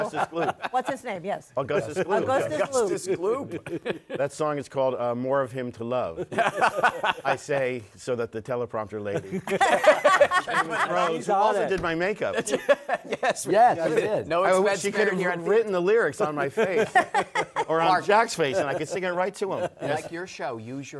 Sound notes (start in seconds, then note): 6.1 laughter; 9.1 laughter; 16.4 laughter